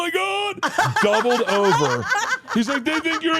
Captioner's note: laugh